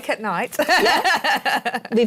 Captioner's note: laughs